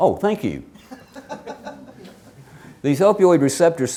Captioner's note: woman laughing